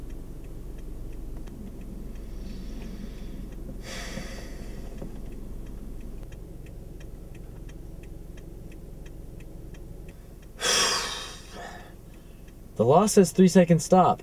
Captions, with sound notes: (Takes Deep Breaths) (Sighs) The law says three-second stop.